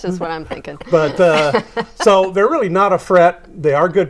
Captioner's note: laughing